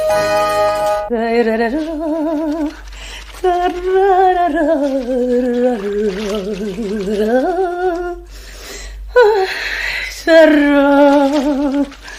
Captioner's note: woman humming a song